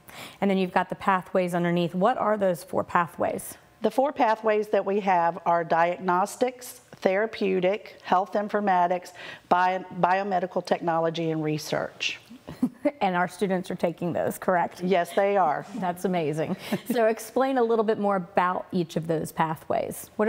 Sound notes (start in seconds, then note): 12.5 laughs